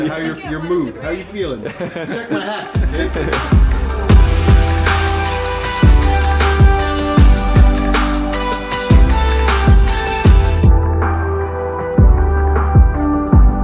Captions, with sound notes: How your mood, how you feelin. (laughing) Check my hat. (upbeat music)